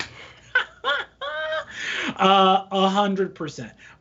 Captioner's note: laughing